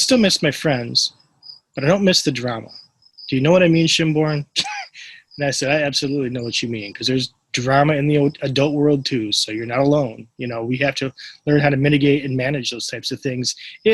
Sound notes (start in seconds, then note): 3.3 laughs